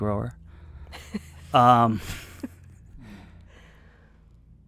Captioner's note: guest laughs softly